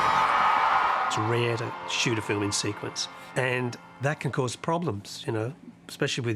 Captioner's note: crowd cheering